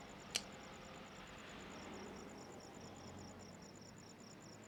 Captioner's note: cicadas chirping